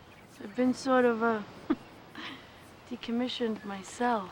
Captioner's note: chuckles